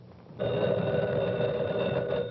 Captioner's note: phone ringing